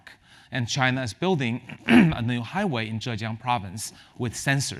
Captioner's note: cough